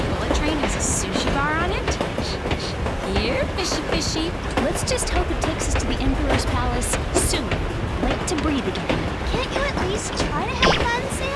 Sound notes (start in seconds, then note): 1.6 sniffing